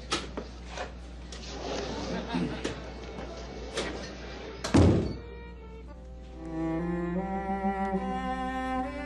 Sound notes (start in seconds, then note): 2.3 Ding clears throat; 4.6 door closes; 5.1 mellow music playing